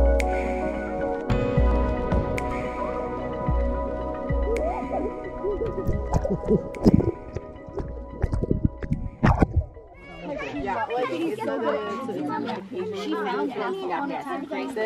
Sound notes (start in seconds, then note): 6.6 water splashing; 9.9 families clamoring